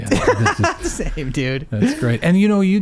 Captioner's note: laughing